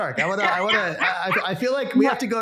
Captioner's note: laughing